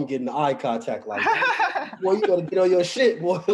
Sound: laughing

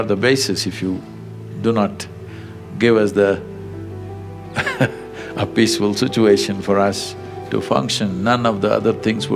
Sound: laughs

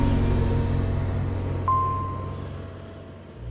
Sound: announcement bell chimes

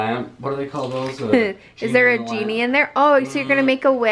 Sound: laughs

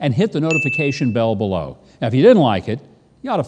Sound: notification sound

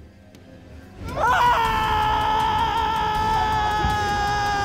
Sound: screaming

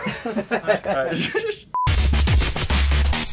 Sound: laughter

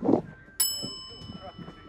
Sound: bell chimes; host speaks at a distance

